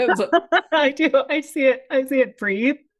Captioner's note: laughs